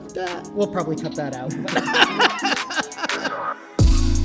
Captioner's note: laughs